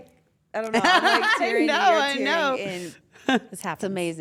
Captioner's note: laugh